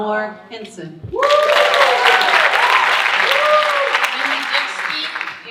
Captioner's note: audience cheering and applauding